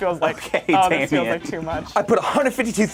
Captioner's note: laughs